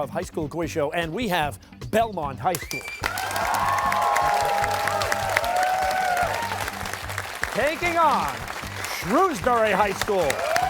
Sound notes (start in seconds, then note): 2.7 cheers and applause